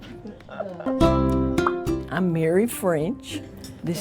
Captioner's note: graphic popping